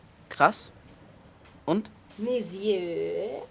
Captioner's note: Phil speaking in foreign language; Kat speaking in foreign language